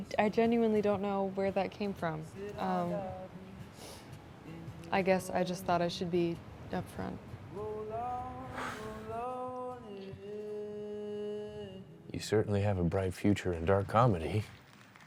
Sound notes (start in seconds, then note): 8.5 Cole sighs